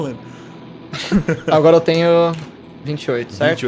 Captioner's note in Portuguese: risadas